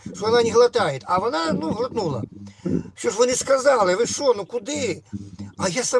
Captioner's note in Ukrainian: прочищення горла